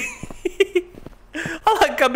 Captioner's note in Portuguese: Risos